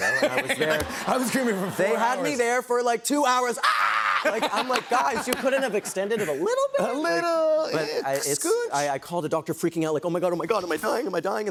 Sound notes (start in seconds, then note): 0.0 laughter; 3.6 screaming